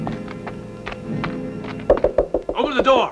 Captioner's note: knocking